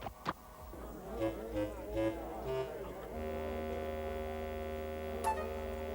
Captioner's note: crowd chatter